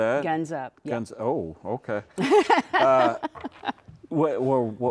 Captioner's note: laughing